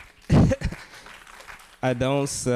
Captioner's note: audience applauding